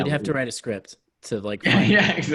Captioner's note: laughs